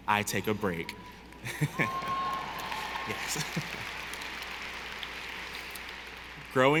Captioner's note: laughs; audience applauding